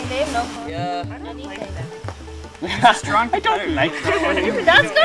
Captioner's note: laughs